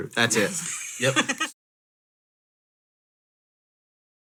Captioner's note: laughing